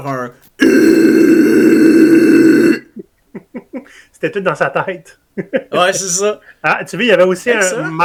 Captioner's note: filthy mouth noise